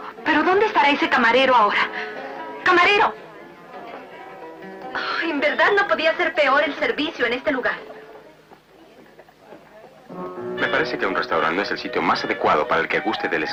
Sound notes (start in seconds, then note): 4.9 sighs